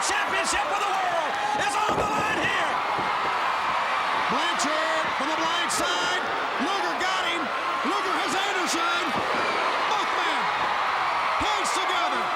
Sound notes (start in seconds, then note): 3.1 crowd cheering